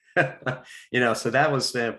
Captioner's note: chuckles